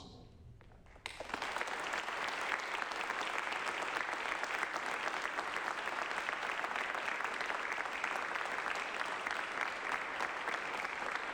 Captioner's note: applause